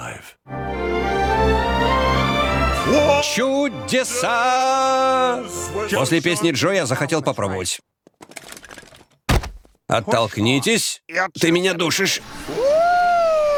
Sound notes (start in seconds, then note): 12.3 straineded; 12.4 whohooping